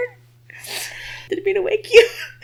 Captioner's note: sniffling